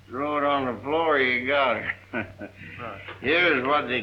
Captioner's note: laughing